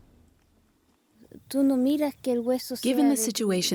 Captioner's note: speaking Spanish